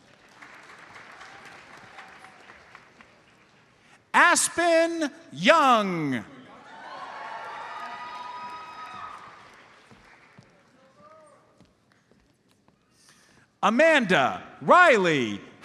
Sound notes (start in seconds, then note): 0.0 audience applauds; 6.6 audience cheers